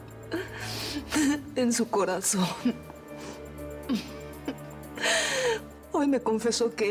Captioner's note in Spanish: sollozos